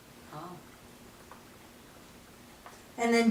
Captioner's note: silence